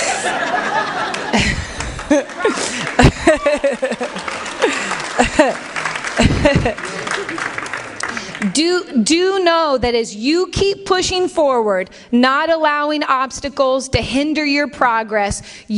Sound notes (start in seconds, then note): 0.0 laughter; 3.3 applause